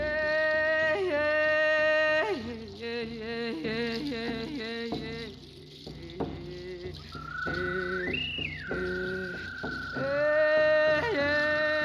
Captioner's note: vocalizations